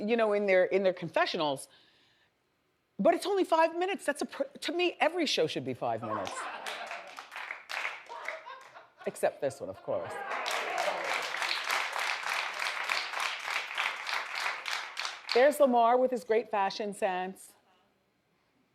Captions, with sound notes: in their confessionals, but it's only five minutes. To me, every show should be five minutes. (audience laughs) Except this one, of course. (audience applauds) There's Lamar with his great fashion sense.